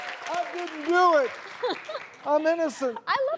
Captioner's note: laughter